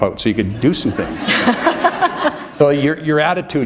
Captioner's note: laughter